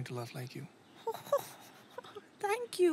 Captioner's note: Laughs